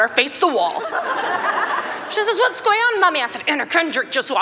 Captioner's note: laughter